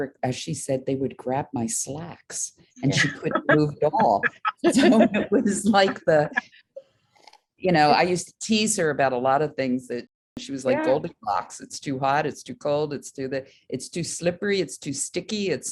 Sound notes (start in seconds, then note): 2.9 laughs; 4.9 laugh